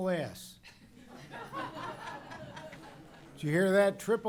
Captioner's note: laughter